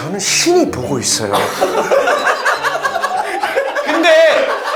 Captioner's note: ah ha ha ha ha